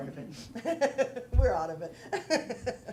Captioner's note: laughter